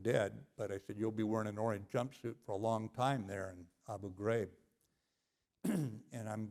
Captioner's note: cough